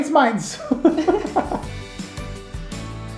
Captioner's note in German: beide lachen